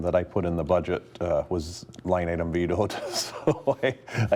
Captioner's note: chuckling